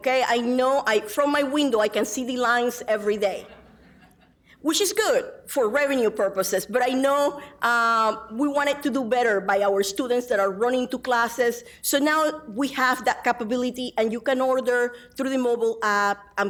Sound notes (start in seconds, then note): 3.4 audience laughing